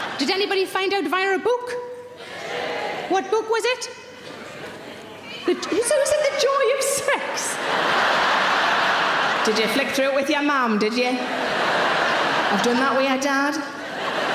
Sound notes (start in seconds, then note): 2.4 audience cheering; 7.2 audience laughing